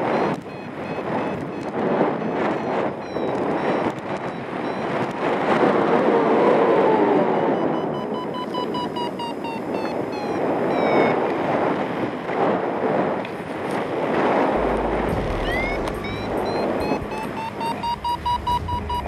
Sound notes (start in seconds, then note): 0.1 alarm accelerates; 0.1 wind whooshing; 5.6 alarm accelerates; 5.6 strong wind gusts; 9.4 alarm slows; 9.4 strong wind gusts; 13.3 fabric scraping; 14.5 intense musical buildup; 14.6 alarm accelerates